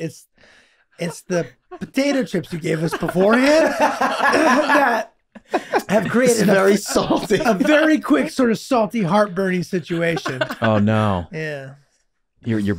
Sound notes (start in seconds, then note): 4.1 group laughing